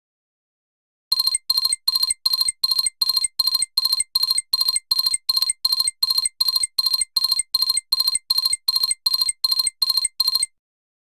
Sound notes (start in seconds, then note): 1.1 sound of tone